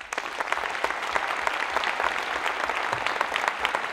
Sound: audience applauds

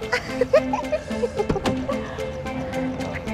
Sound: giggling; car door; rhythmic discordant music

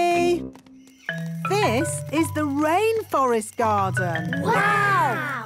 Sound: rainforest sounds

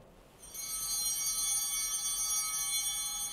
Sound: altar bell ringing

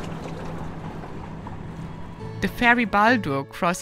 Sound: water lapping

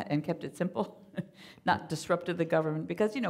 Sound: chuckling

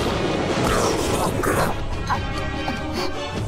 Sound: choking sounds

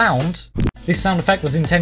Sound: sound effect

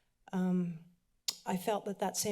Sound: clicks tongue

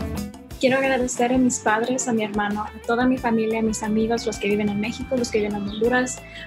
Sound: speaks in foreign language

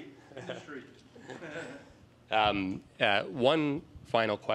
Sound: laughter

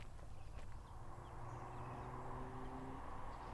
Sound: car Approaches

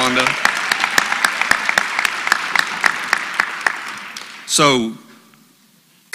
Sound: applause

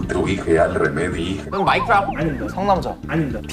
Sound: again, shouting out wrong answers

